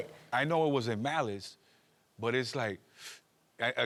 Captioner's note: inhales sharply